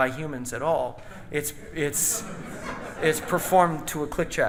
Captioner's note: audience laughing